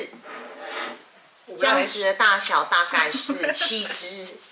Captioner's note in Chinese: 哈哈